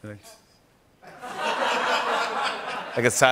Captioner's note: silent; laughter